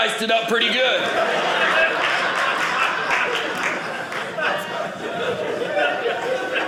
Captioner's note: audience laughing